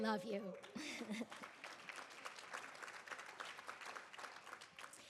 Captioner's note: audience applauding